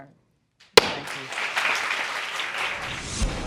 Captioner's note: applause